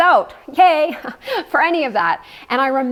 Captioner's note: laughs